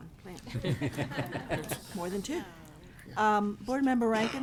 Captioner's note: all laughing